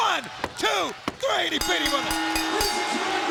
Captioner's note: bell dinging